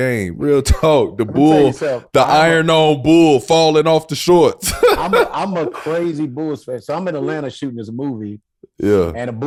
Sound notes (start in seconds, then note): 4.6 laughing